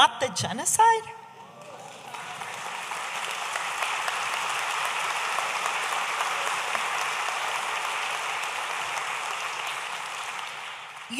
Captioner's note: audience applauding